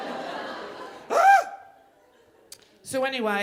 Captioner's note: shrieking